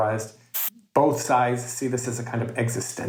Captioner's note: static hissing